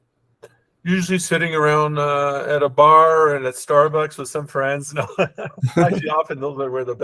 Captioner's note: laughs